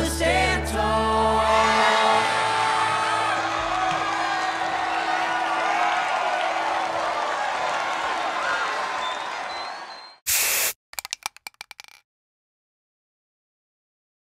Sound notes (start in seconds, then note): 3.2 cheering; 9.0 whistling